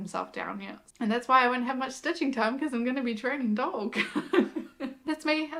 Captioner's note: laughs